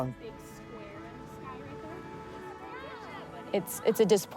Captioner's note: people chattering indistinctly